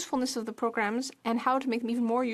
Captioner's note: speaking French